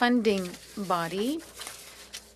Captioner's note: speaking French